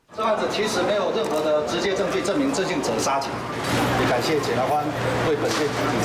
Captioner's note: speaking in foreign language